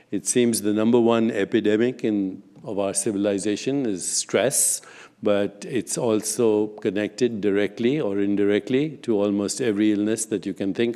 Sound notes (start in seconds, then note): none